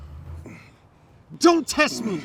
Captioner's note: Mark grunting